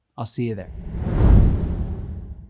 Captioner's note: graphics whooshing